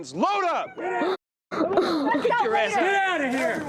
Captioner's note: cries